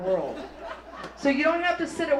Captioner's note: audience laughs